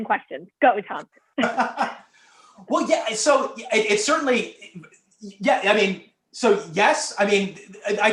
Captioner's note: laughter